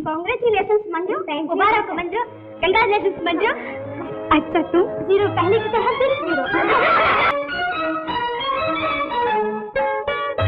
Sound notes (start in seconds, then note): 6.4 laughs